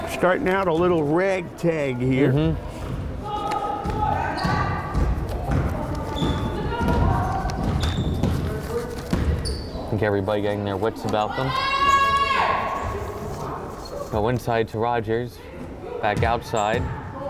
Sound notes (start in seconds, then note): 3.1 crowd chattering and yelling; 11.6 woman yelling